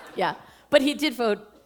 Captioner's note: laughter